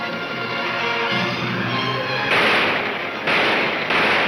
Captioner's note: gunshots banging